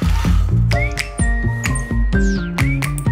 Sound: whistling

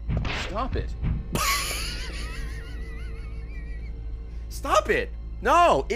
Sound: laughs

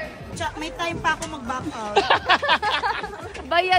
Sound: laughs

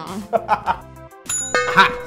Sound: man laughs; bell dongs; bell rings

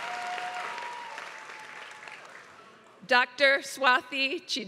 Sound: applause

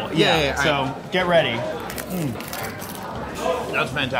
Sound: crunching

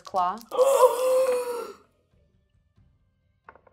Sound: gasping

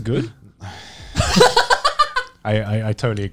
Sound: sighing; chuckling

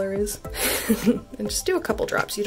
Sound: chuckles

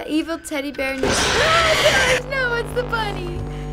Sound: yells; in game: growl

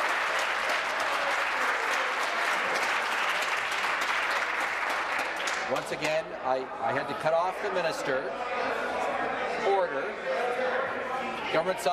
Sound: applause

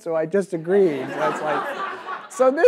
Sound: audience laughs

